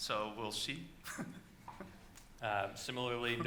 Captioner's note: laughing